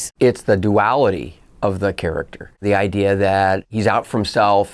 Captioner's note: none